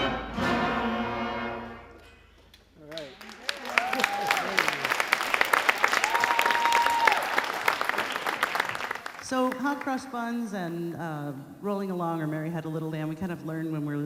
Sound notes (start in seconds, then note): 3.7 laughs; 5.6 audience applauding